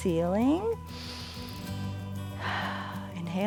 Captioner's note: inhales and exhales